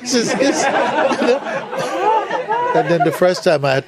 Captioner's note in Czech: smích